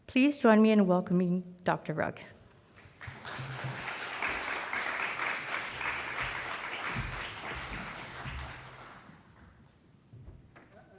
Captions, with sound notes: Please join me in welcoming Dr. Rugg. (audience applauding)